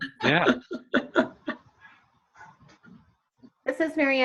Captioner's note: laughter